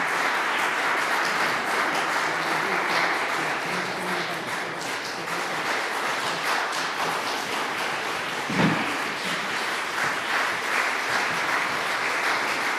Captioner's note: applause